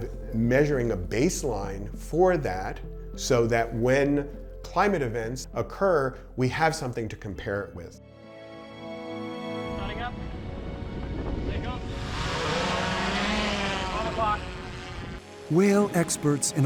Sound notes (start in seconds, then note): 9.9 regal music; 13.4 drone whirring